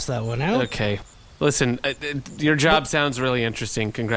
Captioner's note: dejectedly